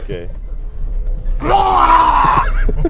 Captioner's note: viking screech